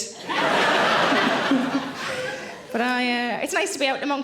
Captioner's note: audience laughing